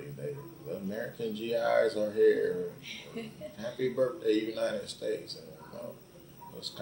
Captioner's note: laughs